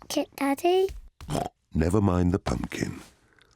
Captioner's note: snorts